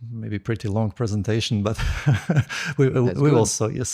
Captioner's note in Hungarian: nevetés